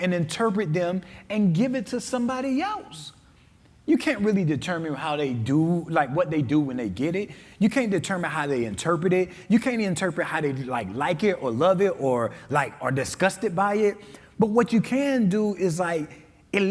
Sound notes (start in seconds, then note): none